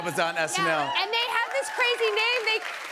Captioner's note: cheers and applause